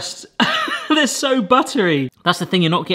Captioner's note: laughs